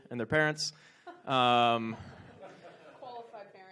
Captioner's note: audience laughs